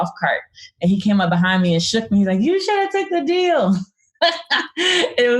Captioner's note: laughs